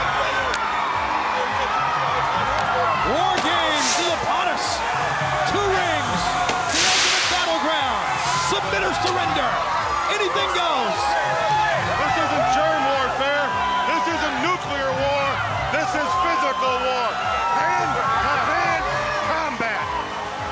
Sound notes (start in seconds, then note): 0.2 crowd cheering; 0.2 high five hands claps; 7.8 fireworks crackling